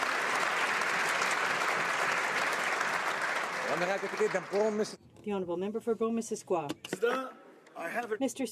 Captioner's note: applause